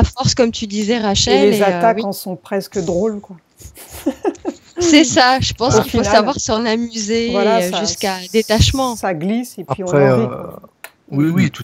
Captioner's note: laughs